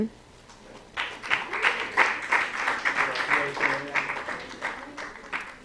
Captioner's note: applause